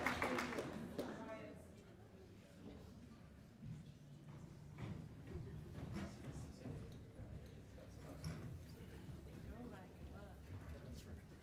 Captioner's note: cheers and applause